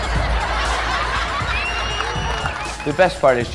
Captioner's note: audience laughing